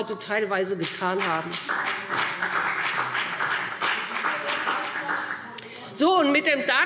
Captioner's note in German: Beifall BÜNDNIS 90/DIE GRÜNEN und CDU